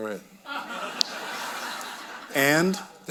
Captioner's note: audience laughing